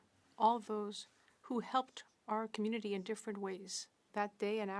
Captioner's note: speaking French